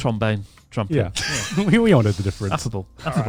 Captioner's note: laughs